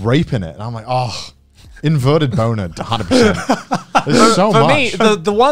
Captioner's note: murmurs